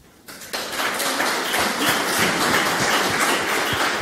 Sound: loud applause

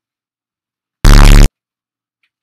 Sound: bffffffffffffffffffffffffffffffffffffffffft

